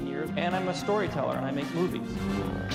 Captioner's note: none